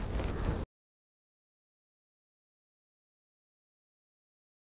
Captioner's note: silence